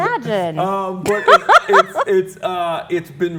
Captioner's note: laughs